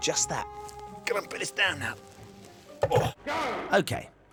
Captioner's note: grunting